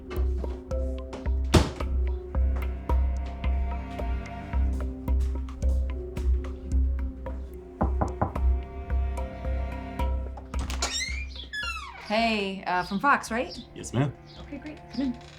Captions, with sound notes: (door slams) (knocking) Hey, from Fox, right? Yes ma'am. Okay, great, come in.